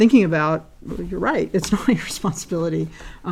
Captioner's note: laugh